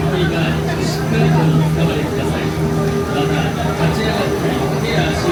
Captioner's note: announcer speaking in Japanese